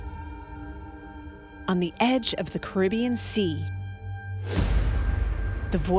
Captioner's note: voiceover